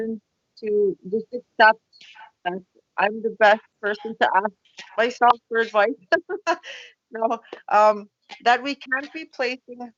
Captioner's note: laughs